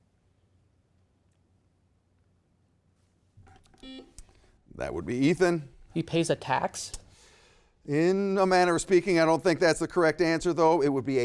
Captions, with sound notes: (buzzer beeps) That would be Ethan. - He pays a tax? - In a manner of speaking, I don't think that's the correct answer though.